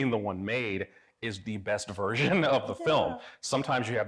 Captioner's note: chuckles